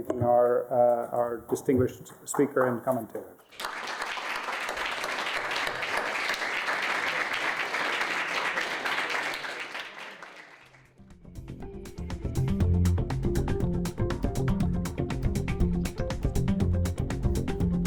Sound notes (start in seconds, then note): 3.4 applause